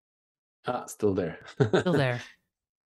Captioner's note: chuckles